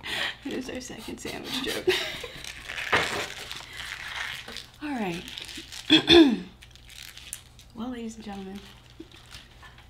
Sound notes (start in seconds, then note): 1.3 laughing